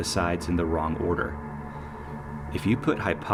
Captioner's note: ominous copyright-free sound effects